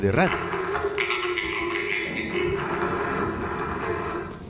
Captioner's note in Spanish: radio